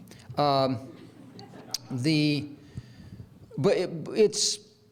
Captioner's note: audience laughs